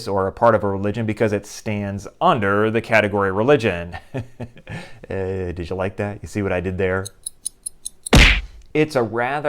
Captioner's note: clock ticking